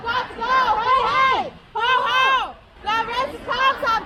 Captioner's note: crowd